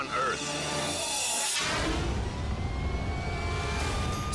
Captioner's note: scene swooshing